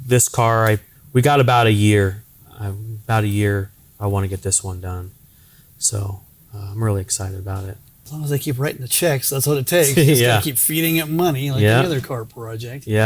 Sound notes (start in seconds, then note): 10.8 laughing